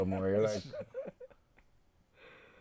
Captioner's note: laughing